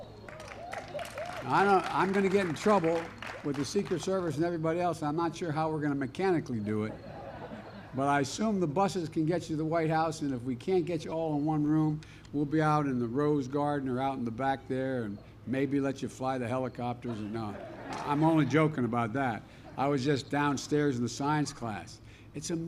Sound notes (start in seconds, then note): 0.2 applause; 6.8 laughter; 17.0 laughter